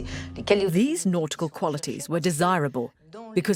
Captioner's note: voiceover